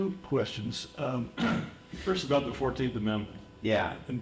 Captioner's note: cough